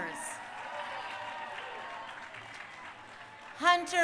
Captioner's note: crowd cheering